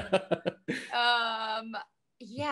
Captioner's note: laughing